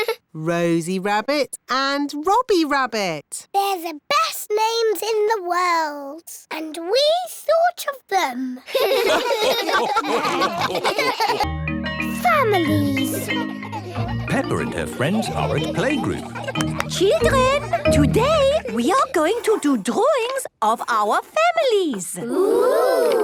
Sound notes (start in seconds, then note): 8.7 all laugh; 16.5 clapping